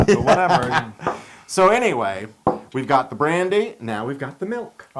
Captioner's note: laugh